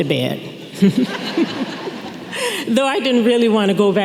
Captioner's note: audience laughing